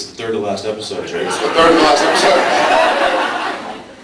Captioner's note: laughs